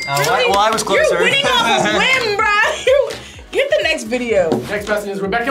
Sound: laughs

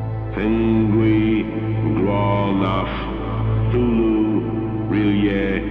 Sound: man speaking foreign language

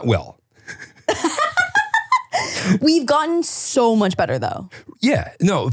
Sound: laughing

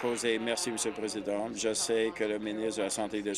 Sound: applause

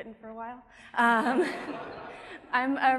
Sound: audience laughing

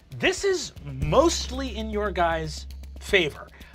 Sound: none

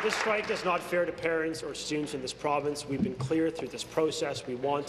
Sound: applause

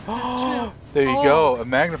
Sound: gasps

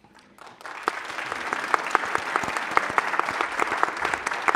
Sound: audience applauding

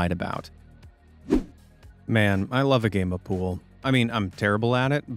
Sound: swoosh

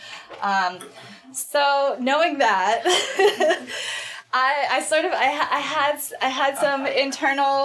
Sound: laughs

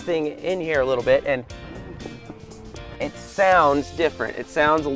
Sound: tapping

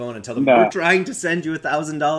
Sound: chuckles

